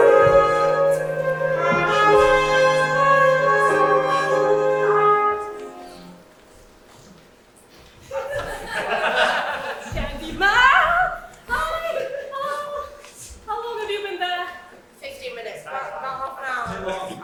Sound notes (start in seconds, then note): 8.1 audience laughs